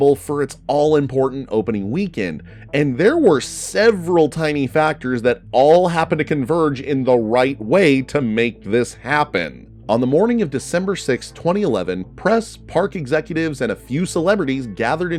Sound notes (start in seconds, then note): none